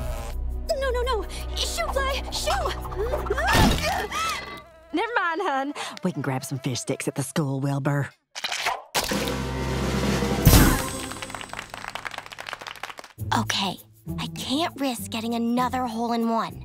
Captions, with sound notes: No, no, no, shoo fly, shoo. [groaning] Never mind, hon. We can grab some fish sticks at the school, Wilber. [drumroll] [clapping] Okay. I can't risk getting another hole in one.